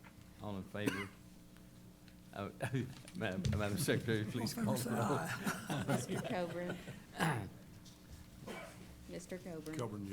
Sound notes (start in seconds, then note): 4.9 laughter